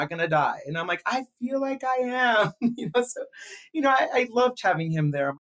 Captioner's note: laughs